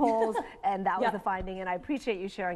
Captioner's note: laughs